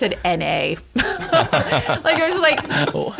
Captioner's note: laughter